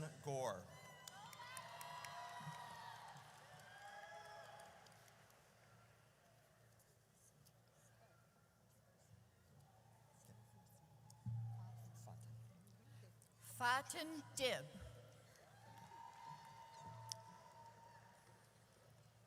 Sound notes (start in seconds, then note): 0.8 audience cheers; 9.5 group chattering; 15.5 audience cheers